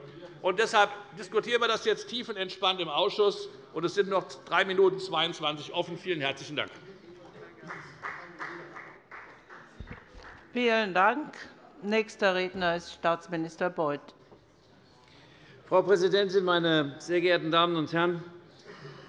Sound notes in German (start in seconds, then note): 7.6 Beifall bei der FDP